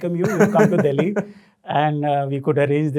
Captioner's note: laughing